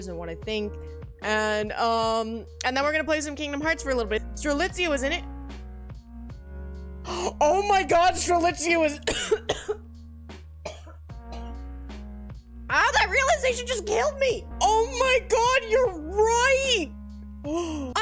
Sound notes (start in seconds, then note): 9.0 coughs; 17.4 gasp